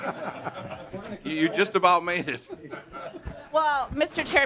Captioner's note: laughter